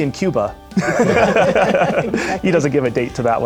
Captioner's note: laughter